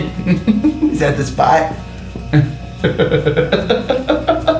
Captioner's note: laughs